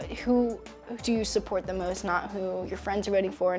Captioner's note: none